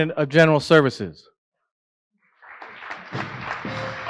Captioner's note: applause